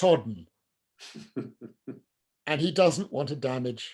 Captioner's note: laughs